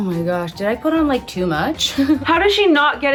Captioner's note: chuckles